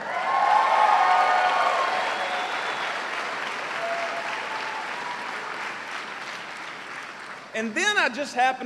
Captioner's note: cheers and applause